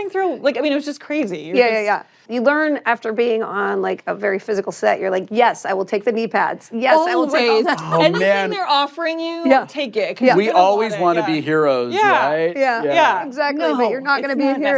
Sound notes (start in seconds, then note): 11.7 all agreeing